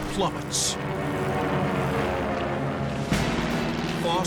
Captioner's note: plane crashing